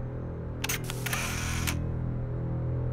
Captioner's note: camera click